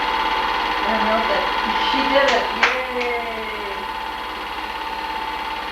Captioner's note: clapping